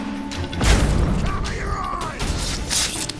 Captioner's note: thunderous boom